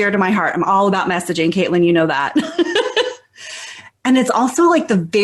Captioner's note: laughs